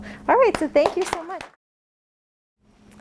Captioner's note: clapping